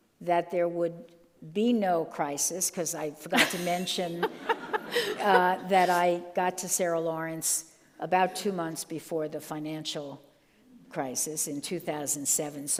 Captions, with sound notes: that there would be no crisis, 'cause I forgot to mention (all laugh) that I got to Sarah Lawrence about two months before the financial crisis in 2007.